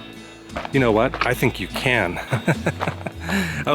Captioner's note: laughter